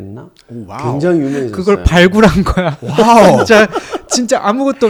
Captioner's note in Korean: 웃음